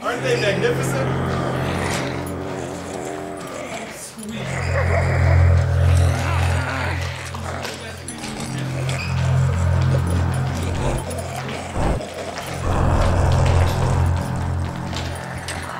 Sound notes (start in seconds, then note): 5.8 zombies growling; 12.4 zombie breathing heavily